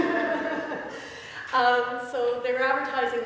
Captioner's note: laughter